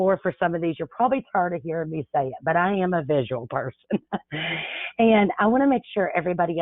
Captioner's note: laughs